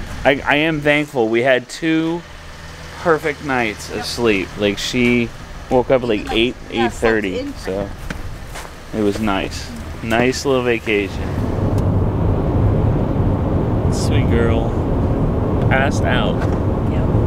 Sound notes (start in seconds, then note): 12.2 car rumbles